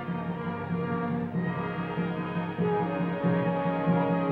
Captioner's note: distant war cry